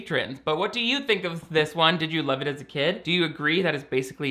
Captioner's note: none